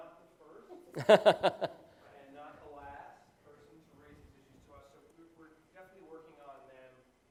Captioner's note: laugh